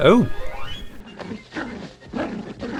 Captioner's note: both growling fiercely